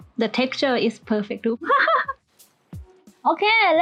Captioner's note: proud laugh